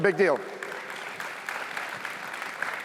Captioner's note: cheers, applause